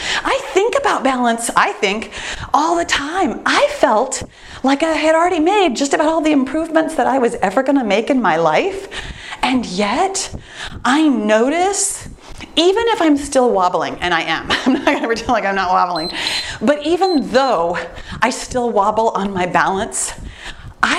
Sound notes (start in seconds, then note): 14.4 laughs; 15.8 timer beeps